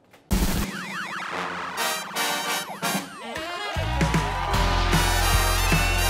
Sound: upbeat jazz music; crowd cheering

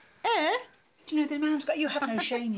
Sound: voice muffling

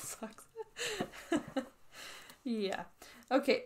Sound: laughs

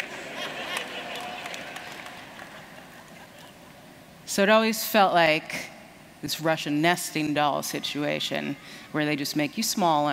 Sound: laughter

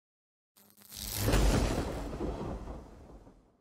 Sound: static and thunder

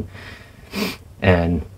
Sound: sniff

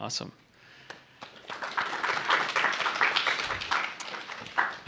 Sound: applause

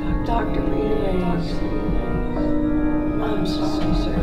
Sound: voice echoing

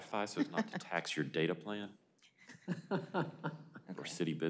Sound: laughter

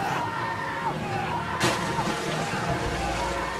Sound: splash

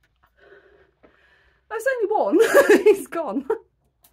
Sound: laughing

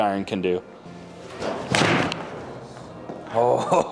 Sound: golf club striking ball

